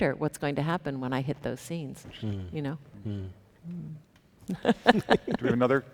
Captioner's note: chuckles